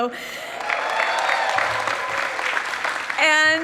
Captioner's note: people clapping